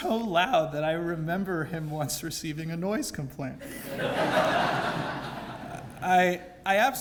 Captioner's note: laugh